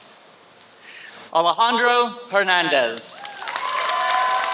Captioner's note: applause